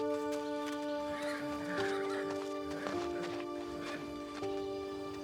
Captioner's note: horses neighing